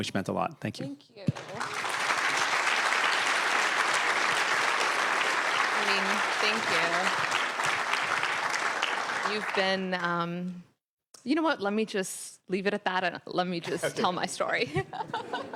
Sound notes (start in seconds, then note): 8.8 applause